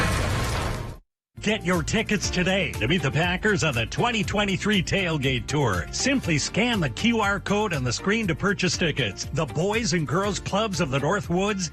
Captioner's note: SFX: "Built Ford Tough" Slam